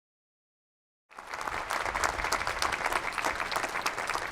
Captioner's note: applause